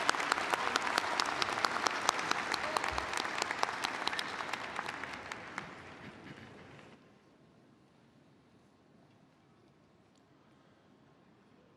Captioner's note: applause